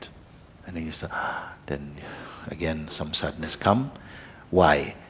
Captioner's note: inhales sharply